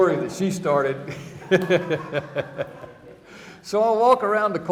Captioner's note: chuckling